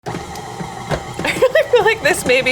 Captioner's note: motor whirring